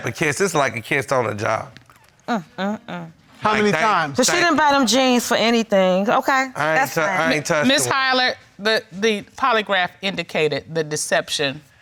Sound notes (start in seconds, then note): none